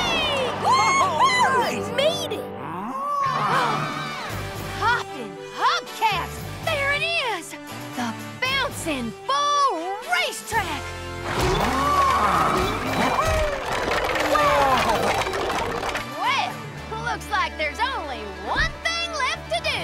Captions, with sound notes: - All right! - We made it! [mooing, gasping] Hoppin' hubcaps! There it is! The Bouncin' Bull racetrack! [mooing] - Wow! - Whoa! Well, looks like there's only one thing left to do!